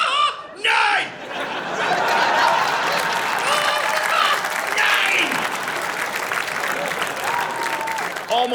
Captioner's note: audience laughing and cheering